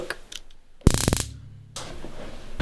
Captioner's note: taser noises